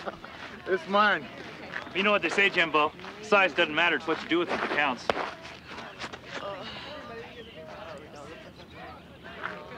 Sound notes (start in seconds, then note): 3.8 people chattering; 3.8 players chanting